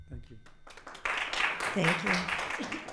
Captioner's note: audience applauding